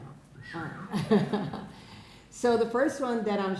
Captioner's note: laughing